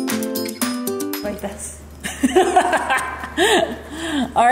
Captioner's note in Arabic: يضحك